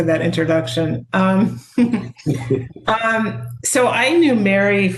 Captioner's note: chuckle